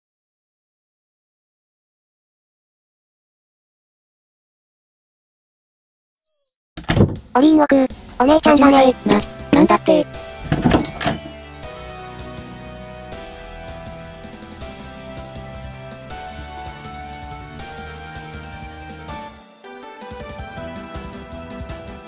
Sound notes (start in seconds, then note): 8.2 surprised; 9.0 monotone